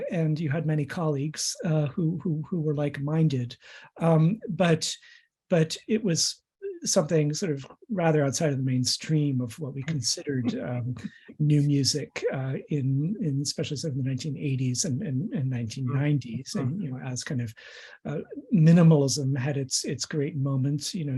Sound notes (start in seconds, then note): 9.7 laughs in background